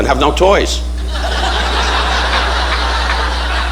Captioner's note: audience laughing